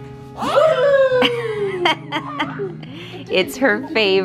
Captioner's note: laughing